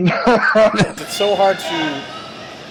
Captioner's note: laughs